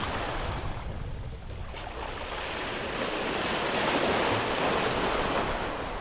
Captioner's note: ocean waves & wind